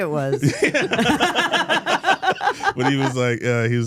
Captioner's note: all laughing